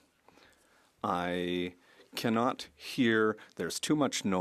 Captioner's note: speaking French